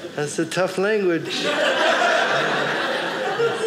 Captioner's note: audience laughing